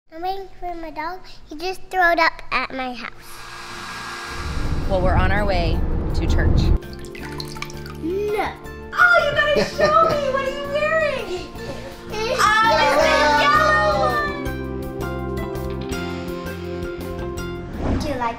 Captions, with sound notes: - I'm waiting on my dog, he just throwed up at my house. (hairdryer blows) - Well, we're on our way to church. (water drips) - No. - Oh, you gotta show me! What are you wearing? Oh, it's the yellow one! - Yellow! (gentle playful music)